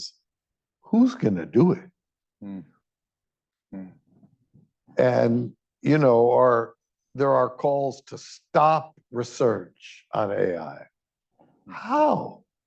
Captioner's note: noises of agreement